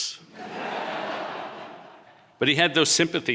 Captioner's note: audience laughing